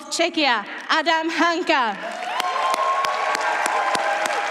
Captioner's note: applause